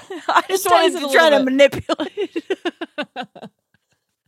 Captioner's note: laughs